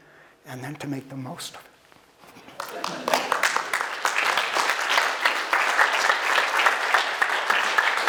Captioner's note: audience applause